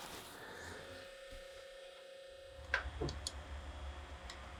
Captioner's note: man sniffs; machine hums